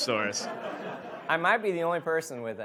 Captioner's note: audience laughs